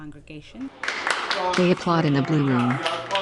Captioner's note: applause